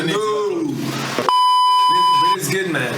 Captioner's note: beep